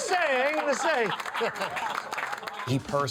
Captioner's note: people laughs